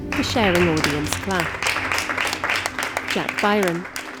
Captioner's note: applause